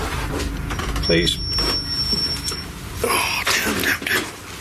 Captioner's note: high pitched beeping